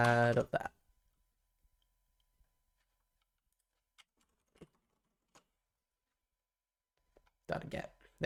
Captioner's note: silence